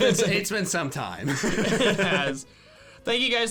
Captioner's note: laughing; laughs